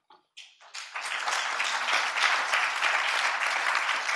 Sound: audience applauds

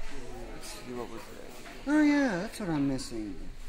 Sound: murmuring

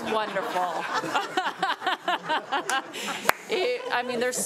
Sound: all giggling

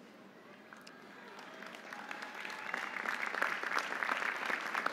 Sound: audience applauding

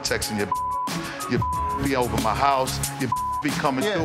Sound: beep; beep

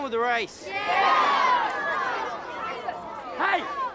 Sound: crowd; crowd chattering

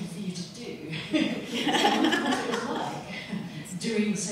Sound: laughter

